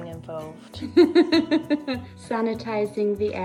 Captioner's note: laughing